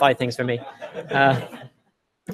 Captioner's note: laughter